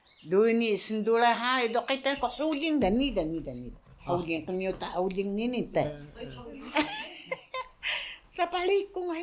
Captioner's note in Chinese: 哈…